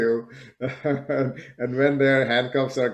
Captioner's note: laughing